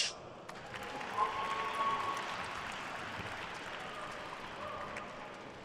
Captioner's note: attendees cheering and applauding